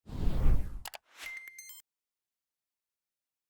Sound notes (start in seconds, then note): 0.0 wind howling; 0.8 mouse clicking; 1.2 beeping